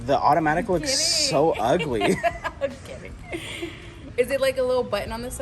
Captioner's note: laughs